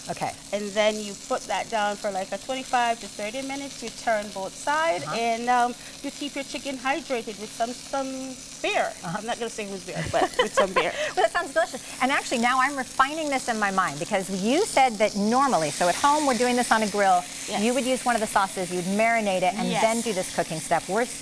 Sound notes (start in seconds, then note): 9.8 laughs